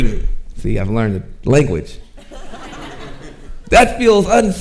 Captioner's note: audience chuckling